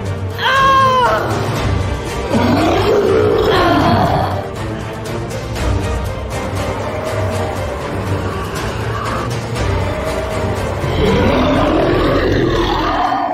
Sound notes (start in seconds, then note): 0.2 furious Cry; 3.2 roar; 6.8 wind Howling; 10.3 loud Roar